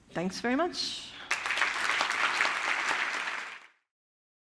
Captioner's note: applause